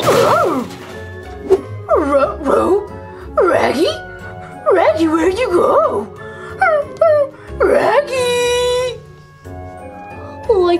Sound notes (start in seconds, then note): 0.0 crashing; 6.4 whimpers